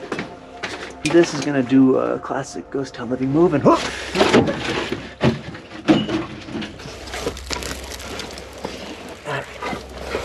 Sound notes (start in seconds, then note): 0.1 footsteps tapping; 4.6 bang banging; 5.8 debris rustling